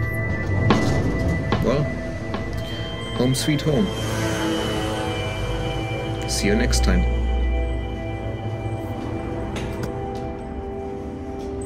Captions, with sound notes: [door sliding sound] Well... Home sweet home. [motorbike passing in the background] See you next time. [street noise continues] [sound of heavy steps on stairs]